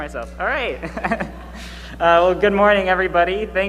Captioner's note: laughs